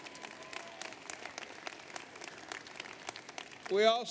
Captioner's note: applause